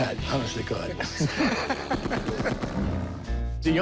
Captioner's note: laughs